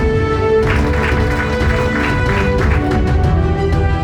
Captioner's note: crowd clapping